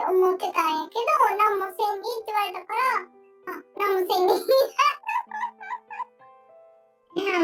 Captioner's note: laughs